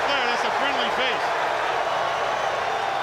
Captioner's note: crowd cheering